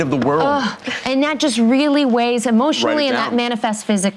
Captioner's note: exhausting sigh